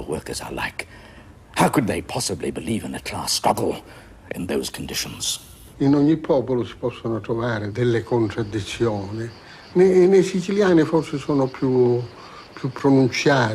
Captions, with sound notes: workers are like. How could they possibly believe in a class struggle in those conditions? [SPEAKING ITALIAN]